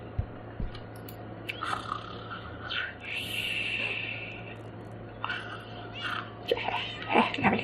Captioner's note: snores